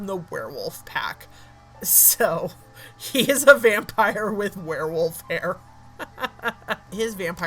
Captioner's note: laughing